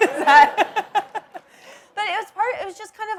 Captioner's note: laughs